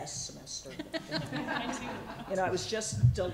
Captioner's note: laughter